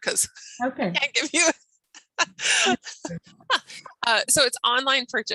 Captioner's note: laughing drowns speaker